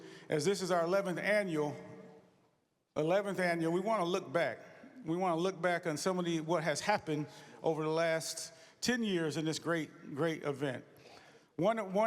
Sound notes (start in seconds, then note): none